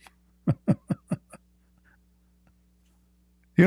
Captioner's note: Ketawa